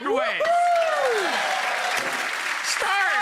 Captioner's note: audience cheering and applauding